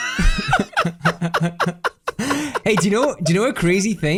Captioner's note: both laughing